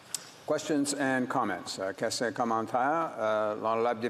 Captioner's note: speaking French